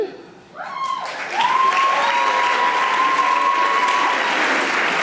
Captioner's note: audience applauding